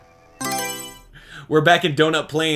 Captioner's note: Mario Selection Sound